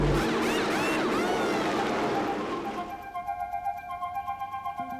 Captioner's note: tools whirring